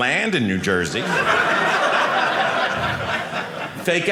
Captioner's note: audience laughing